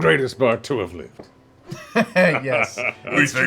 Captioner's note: chuckles